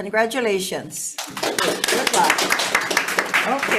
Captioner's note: all applauding